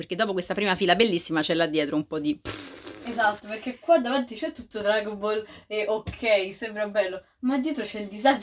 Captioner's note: pfffffff